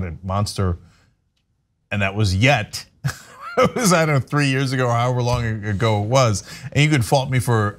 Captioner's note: laugh